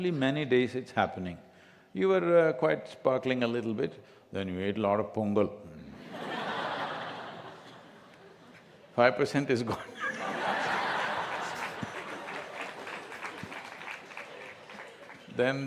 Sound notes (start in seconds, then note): 6.9 laughter; 9.7 laughter/Applause